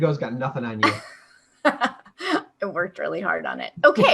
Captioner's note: laughter